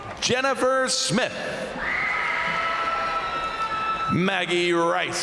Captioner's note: crowd applauding; crowd cheering; crowd cheering; crowd applauding